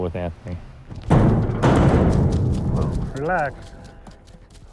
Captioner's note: gate rattles